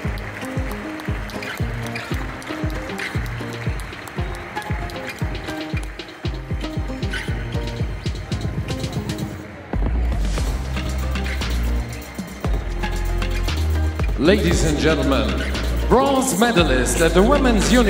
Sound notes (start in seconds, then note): 0.0 applause; 0.0 ♫ Midtempo guitar music ♫